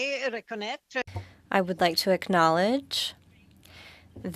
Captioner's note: speaking French